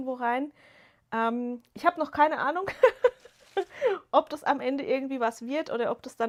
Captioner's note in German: gelächter